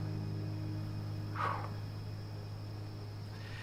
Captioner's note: exhales